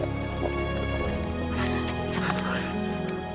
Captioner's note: sobs